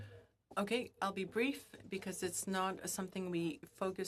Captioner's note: speaking FRENCH